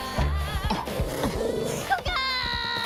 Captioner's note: dog growling; minion screaming and laughing